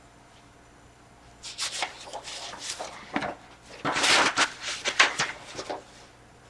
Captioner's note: flipping through pages